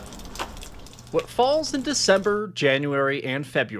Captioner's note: rain pattering